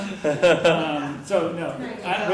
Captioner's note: laugh